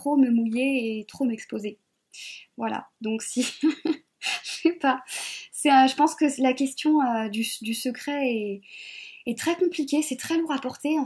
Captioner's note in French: rires